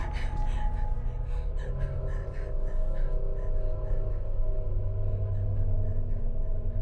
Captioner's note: Heather breathing heavily; soft tense music